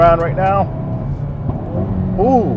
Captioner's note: car engine roaring; exhaust rattling